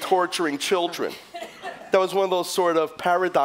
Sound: laughter

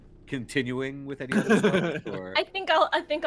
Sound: chuckling

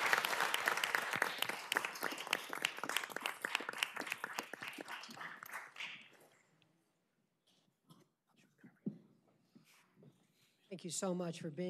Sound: applause

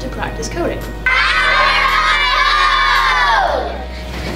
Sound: kids yelling

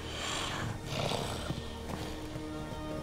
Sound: growls; footsteps

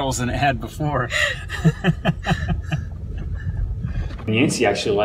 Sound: both laugh

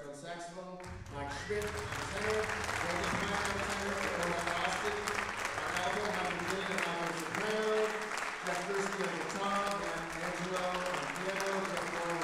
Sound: applause drowns speech

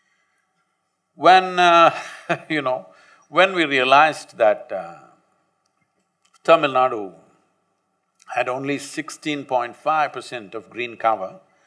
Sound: laughs

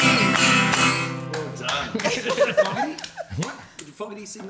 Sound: clapping

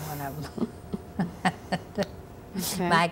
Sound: laugh

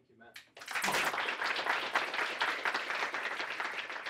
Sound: applause

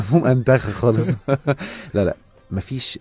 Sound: laughs!

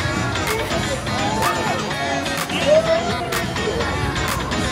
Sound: screaming

